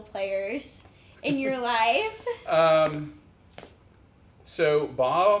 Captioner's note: chuckles